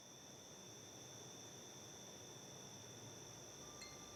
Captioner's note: crickets